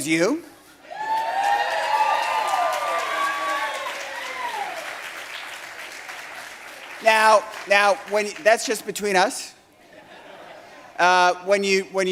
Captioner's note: cheering